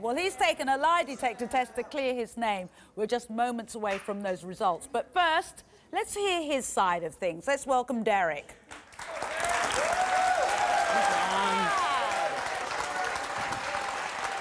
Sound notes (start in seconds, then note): 8.8 audience cheering and applause